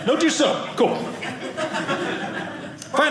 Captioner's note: audience laughing